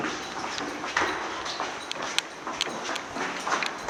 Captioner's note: footsteps thump